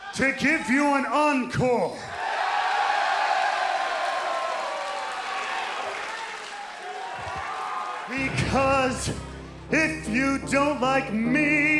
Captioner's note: crowd cheering